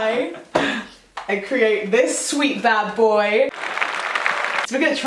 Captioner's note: applause sound effect